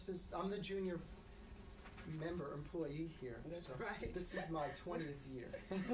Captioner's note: laughter